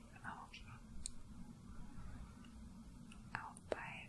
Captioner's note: brushing fabric